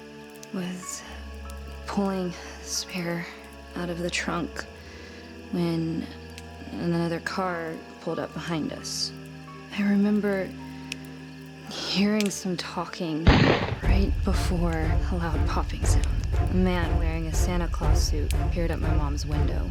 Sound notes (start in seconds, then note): 13.2 gunshot Ringing in the Distance